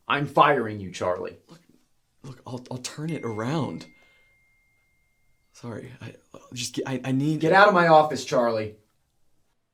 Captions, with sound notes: I'm firing you, Charlie. - Look, I'll turn it around. (phone notification sound) Sorry. I just, I need... - Get outta my office, Charlie.